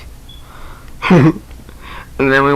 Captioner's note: laughter